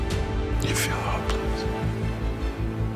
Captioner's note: voiceover